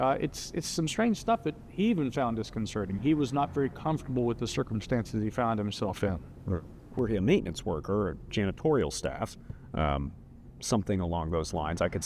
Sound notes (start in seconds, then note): none